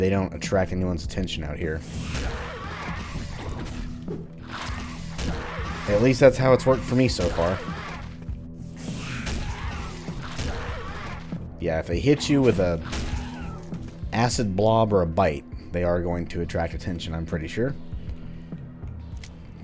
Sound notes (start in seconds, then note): 4.5 Bugdogs snarl, then get whacked; 8.8 More Bugdogs snarl and get Crowbar'd; 8.9 whack; 12.8 whack